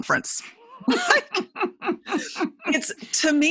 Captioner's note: laughing